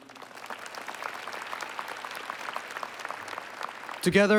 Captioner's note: applause